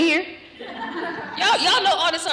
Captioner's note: laughter